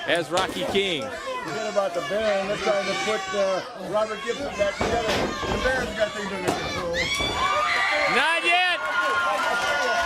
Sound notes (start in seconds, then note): 1.6 crowd chatter; 3.1 crowd cheering